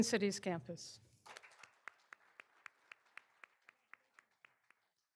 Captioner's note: all applauding